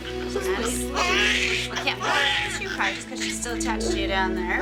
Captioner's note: baby crying